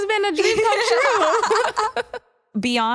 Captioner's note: laughter